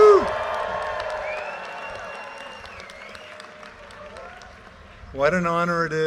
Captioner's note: audience cheers and applause